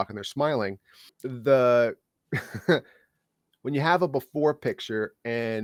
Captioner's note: laughing